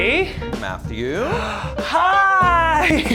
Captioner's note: gasps; laughing